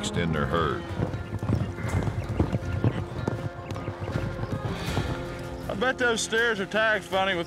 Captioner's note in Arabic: ضربات حوافر